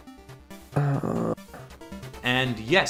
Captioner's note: groan